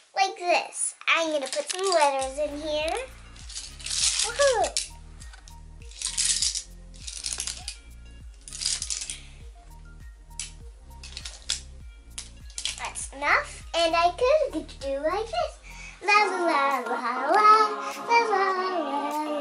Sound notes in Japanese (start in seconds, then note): 5.8 ジャラジャラジャラ; 8.4 ジャラジャラ